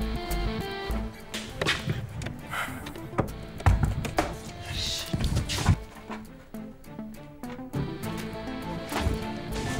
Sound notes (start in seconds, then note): 3.6 Knocks on door